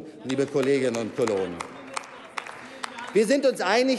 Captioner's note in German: Applaus